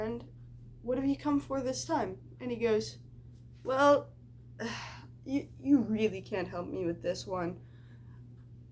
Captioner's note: sigh